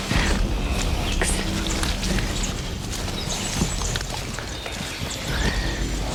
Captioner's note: squishy mud tracking sounds as fresh deep hog tracks are discovered